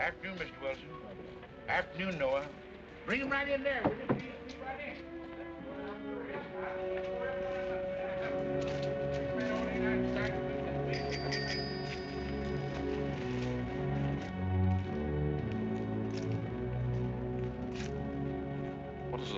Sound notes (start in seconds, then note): 7.5 footsteps; 10.9 bike bell rings; 13.9 sinister music